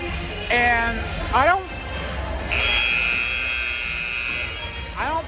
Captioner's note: buzzer sound